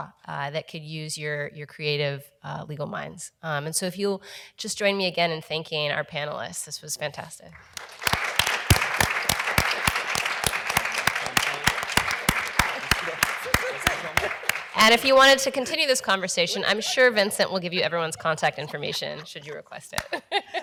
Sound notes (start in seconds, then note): 7.6 everyone applauds; 13.2 laughs